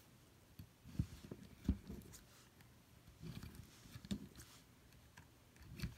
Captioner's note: soft scraping and rustling